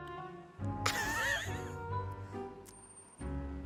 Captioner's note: laughs